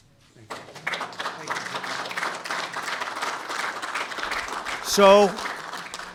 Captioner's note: applause